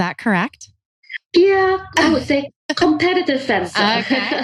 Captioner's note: laughs